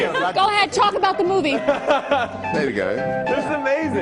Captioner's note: laughter